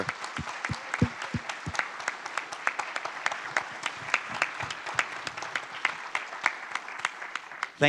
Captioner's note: applause